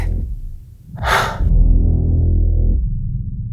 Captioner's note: sigh of fear